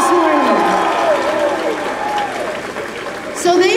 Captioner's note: applause